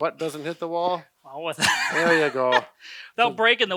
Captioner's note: laughter